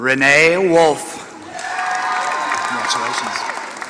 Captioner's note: applause